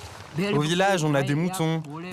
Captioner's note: foreign language spoken